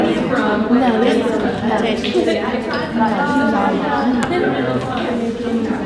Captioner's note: participants talking at once